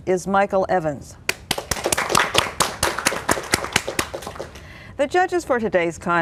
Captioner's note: applause